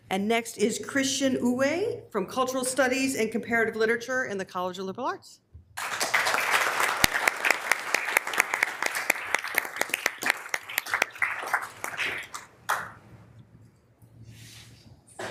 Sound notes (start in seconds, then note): 5.7 members applauding